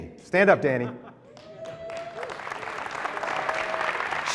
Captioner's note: applause